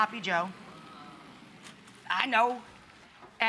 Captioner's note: audience oohing